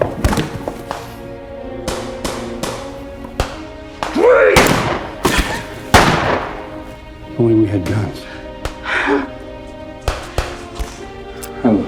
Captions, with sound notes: - Drake! (gun firing) - If only we had guns. (dramatic music)